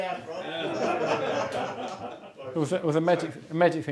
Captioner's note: laughter